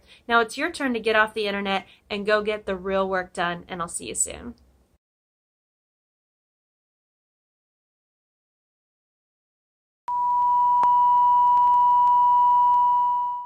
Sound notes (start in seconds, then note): 10.1 beep